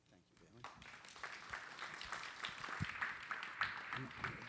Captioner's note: applause